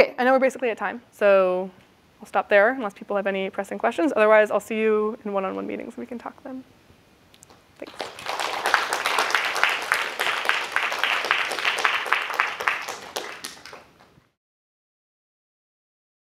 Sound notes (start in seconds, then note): 7.8 applause